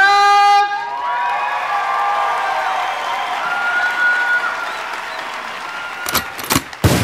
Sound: screaming and applause

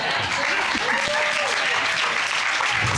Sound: audience cheers

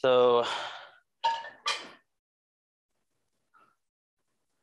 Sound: none

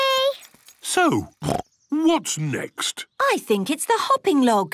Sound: snorts

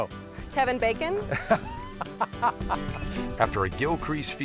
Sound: laughter

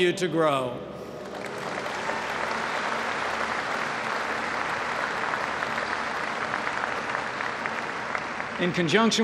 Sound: applause

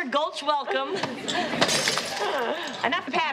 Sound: <i> glass breaking</i>

